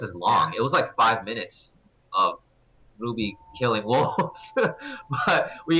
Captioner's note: laugh